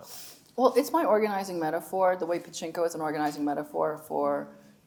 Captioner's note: none